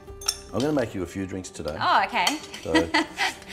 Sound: chuckles

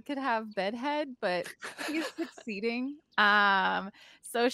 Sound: laughing

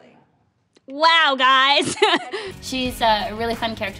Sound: laughs

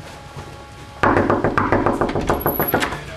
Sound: knocking

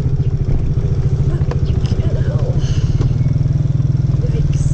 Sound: sigh

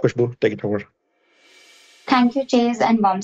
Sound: transition swish

